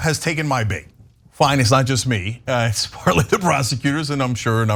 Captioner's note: laugh